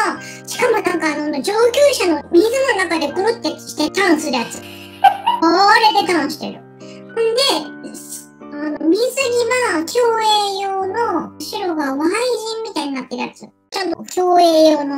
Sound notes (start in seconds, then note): 4.5 laughs